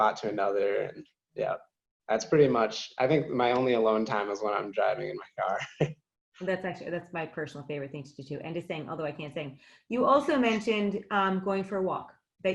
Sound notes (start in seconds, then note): 5.4 laughing